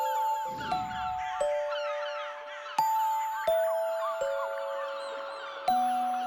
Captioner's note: graznidos